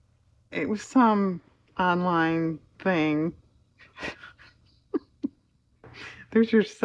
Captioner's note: laughs